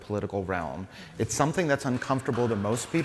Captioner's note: applause